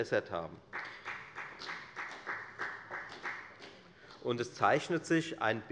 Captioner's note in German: Beifall bei der FDP